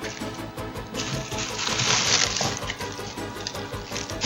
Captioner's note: sound of paper for tortillas